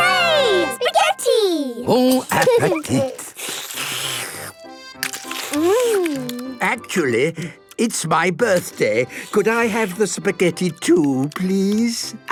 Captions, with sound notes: - Hooray! Spaghetti! - Bon appetite! - (slurping) Mmmm! - Actually, it's my birthday. Could I have the spaghetti too, please?